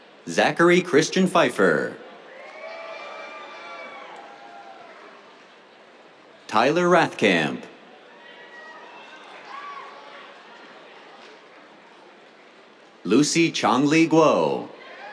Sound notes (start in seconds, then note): 2.1 cheers; 8.1 cheers, applause; 14.7 cheers